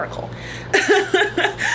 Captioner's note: laughs